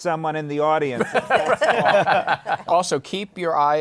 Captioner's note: laughter